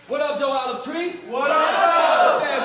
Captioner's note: crowd